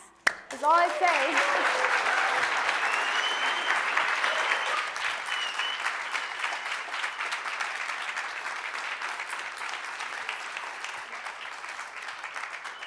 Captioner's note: applause